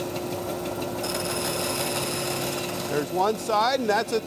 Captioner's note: wood buzzes in saw